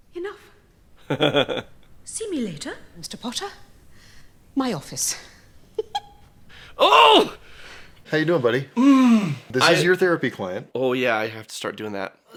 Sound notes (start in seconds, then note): 5.4 giggle; 6.8 struggles